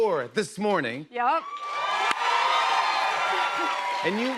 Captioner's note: cheers and applause